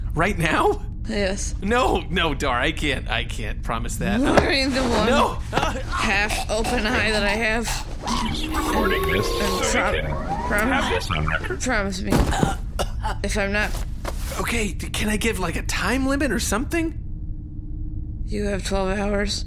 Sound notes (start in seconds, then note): 13.8 Dar drops Pleck and he begins panting; 14.3 raspy